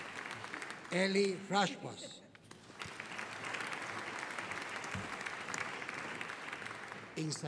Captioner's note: audience applauding